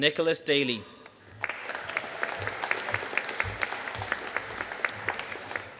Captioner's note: audience applauding